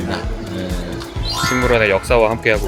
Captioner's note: sparkling sound effect